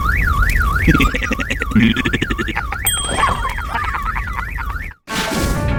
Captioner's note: manic laughter